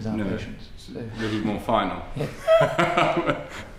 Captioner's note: laughs